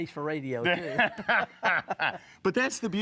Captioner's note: both laugh